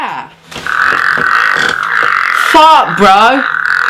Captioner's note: farts